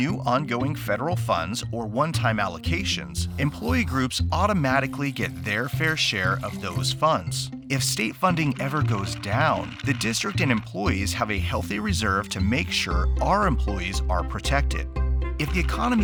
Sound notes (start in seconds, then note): 5.9 water filling; 8.4 crank rattling